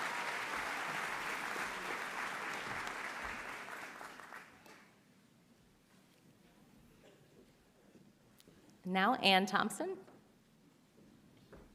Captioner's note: applause